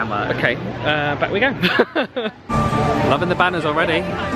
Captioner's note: laughs